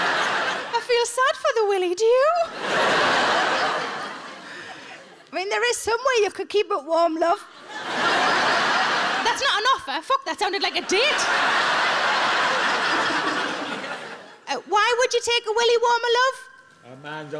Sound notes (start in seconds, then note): 7.6 audience laughing